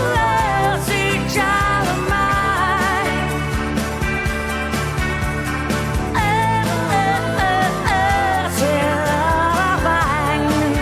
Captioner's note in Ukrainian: оплески